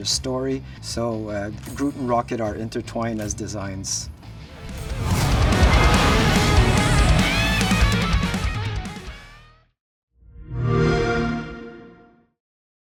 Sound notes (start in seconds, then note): 10.5 xbox sound